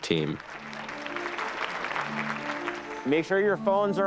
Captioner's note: applause